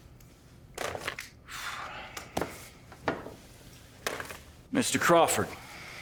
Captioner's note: folder thuds; Joseph sighs